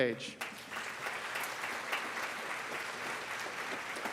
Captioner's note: students applauding